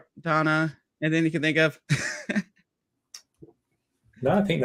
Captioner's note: laughs